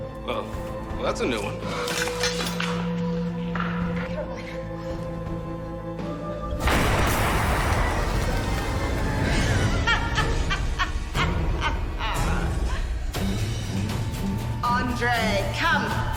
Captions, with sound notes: - Well, that's a new one. - Caroline. (explosion) (Elizabeth laughs) - Andre, come.